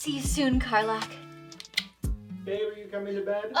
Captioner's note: kiss sound